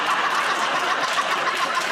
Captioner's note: laughter